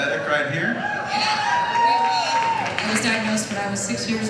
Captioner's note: audience cheers